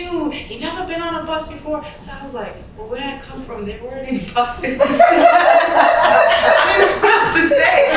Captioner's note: laughter